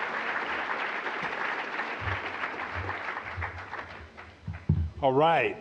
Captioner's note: applause